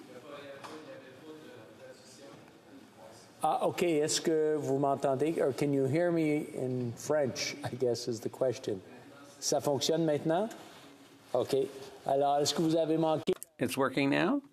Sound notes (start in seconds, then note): 7.4 off mic